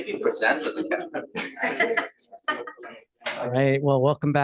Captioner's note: laughs